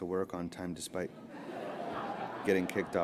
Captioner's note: laughter